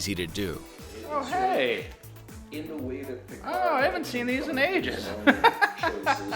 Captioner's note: laughs